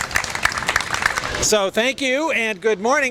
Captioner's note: applause